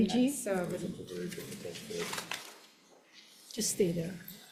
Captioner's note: faintly speaking